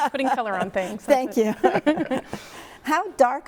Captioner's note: chuckles